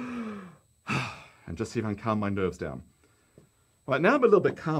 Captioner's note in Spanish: exhala